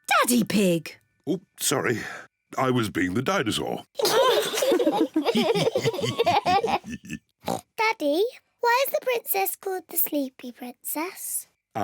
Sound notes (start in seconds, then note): 4.0 all giggle; 6.5 oinks